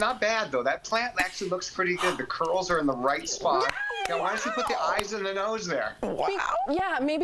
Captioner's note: laughter